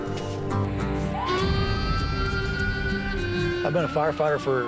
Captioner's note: siren blaring